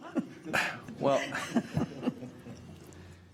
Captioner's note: chuckles